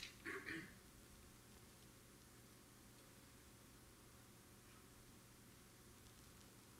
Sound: audience member clearing their throat

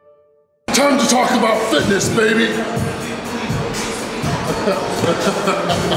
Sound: laughs

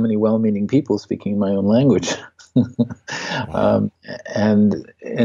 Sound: laughs

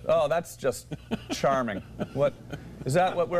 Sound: laughter

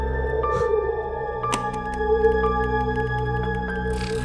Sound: keyboard sound

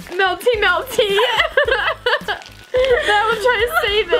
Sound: laughing

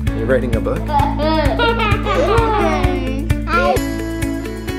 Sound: laughing

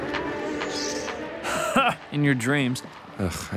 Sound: laughs

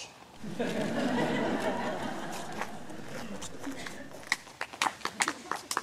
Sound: laughter, clapping

